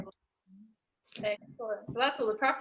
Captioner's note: mumbles